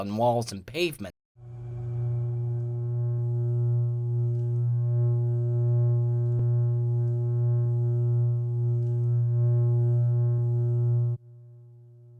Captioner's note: wired humming